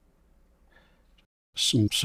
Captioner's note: silence